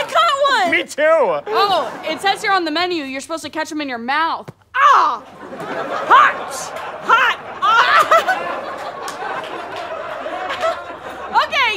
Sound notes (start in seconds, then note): 8.2 laughs; 9.4 audience laughter